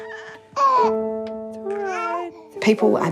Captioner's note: cries